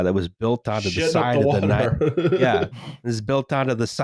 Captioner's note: laughs